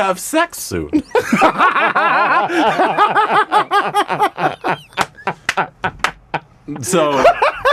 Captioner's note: married laughter